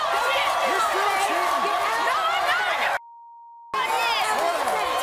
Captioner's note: guests arguing and cursing